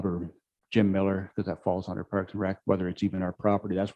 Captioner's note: murmurs